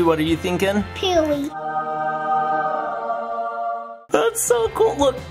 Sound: angelic effect

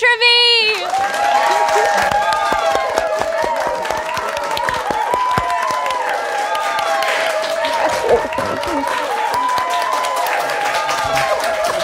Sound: cheers; claps

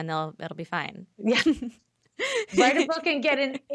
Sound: laughing

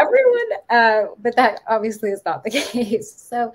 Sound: chuckling

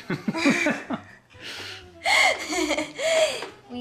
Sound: laughing

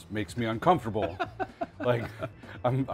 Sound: laughs

